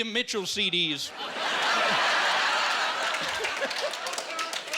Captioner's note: laughing; man laughing loudly